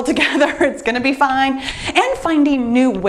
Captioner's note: laughs